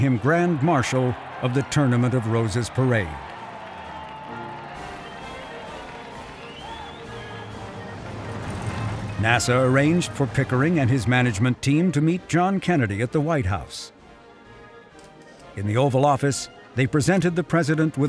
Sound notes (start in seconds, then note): 3.7 people cheering; 4.6 people whistling; 6.5 upbeat music